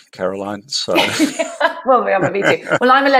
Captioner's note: laughs